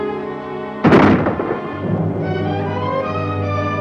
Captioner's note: gun bangs; dramatic instrumental music